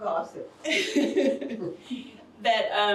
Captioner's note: laughs